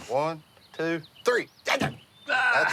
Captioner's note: screams